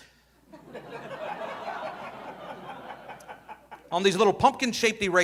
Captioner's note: audience laughing